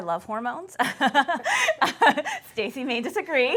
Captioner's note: laughter